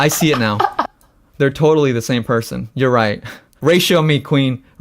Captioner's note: laughs; laughs